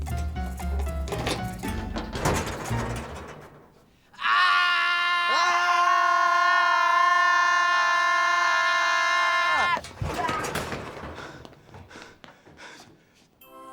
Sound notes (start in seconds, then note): 4.1 screams; 6.5 both scream together; 10.9 breathes heavily